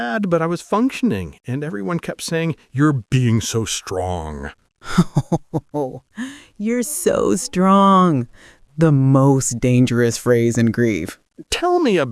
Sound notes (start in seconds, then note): 4.8 uncomfortable laugh